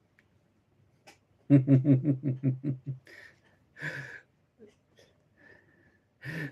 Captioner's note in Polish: śmiech